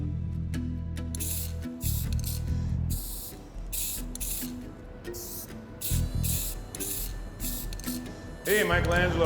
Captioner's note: spraying paint